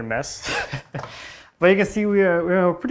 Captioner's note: laughing